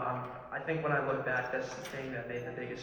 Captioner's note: none